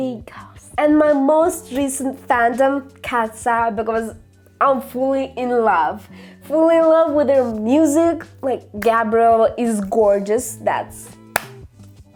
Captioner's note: clap